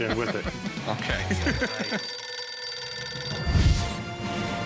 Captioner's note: phone ringing